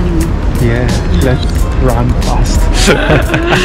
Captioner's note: whispering; whispering; laughing